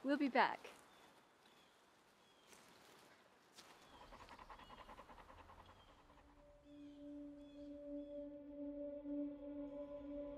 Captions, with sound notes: - We'll be back. (birds chirping)